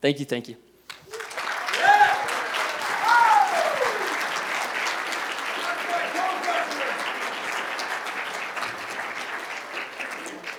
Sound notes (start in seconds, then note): 1.4 cheers and applause